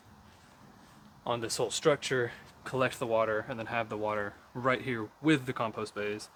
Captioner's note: rain